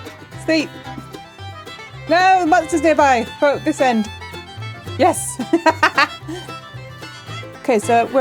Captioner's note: laughing